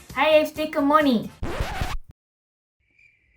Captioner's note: record scratch; cricket chirping